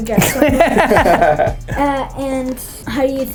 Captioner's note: laughter